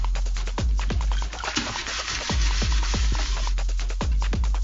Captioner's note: intense music; water splashing